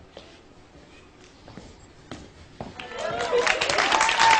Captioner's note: footsteps thudding; audience cheering and applauding